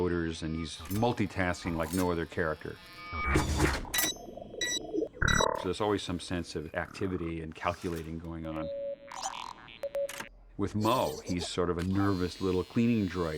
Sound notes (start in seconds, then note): 4.5 beeping; 8.6 low beeping